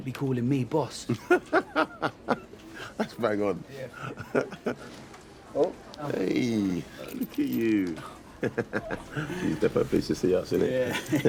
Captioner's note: laughs